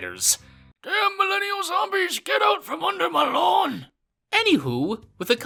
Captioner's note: old man voice